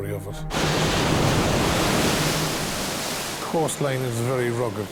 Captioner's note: waves roar